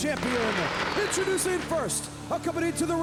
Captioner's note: firecrackers exploding